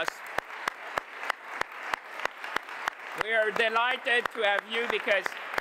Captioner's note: applause